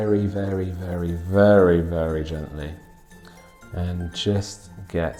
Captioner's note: pencil scratching